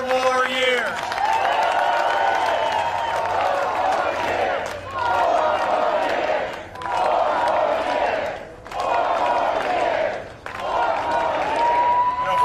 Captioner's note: cheering and applause